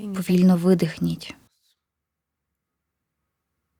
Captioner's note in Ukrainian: пауза